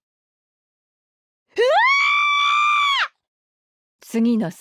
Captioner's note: scream